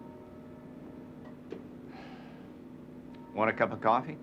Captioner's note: sighs